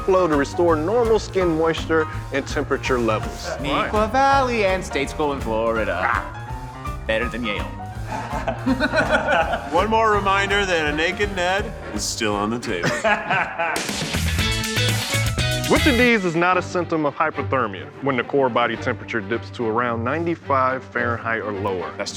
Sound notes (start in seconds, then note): 12.6 laughing; 14.2 upbeat music